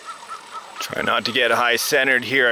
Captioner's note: bird calls